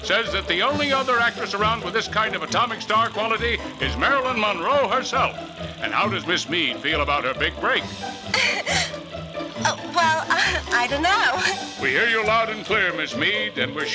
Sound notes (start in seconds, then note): 8.3 giggles